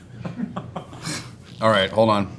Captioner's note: interviewer chuckles